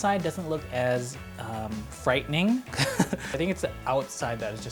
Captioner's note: laughing